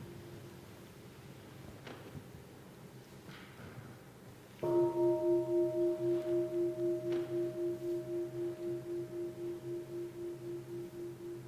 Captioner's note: bell